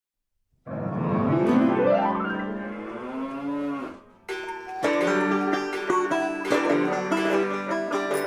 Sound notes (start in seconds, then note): 0.6 piano keys; 2.4 cow mooing; 4.3 country guitar